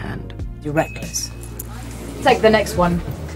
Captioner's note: elevator bell rings